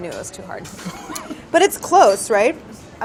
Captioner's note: laughs